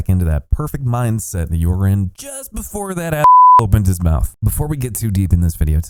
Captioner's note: beep